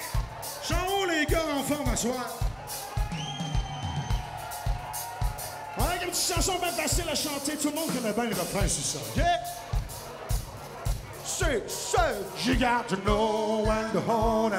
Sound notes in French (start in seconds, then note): 2.6 cris d'enthousiasme